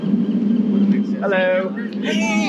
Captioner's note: wind humming; birds chirping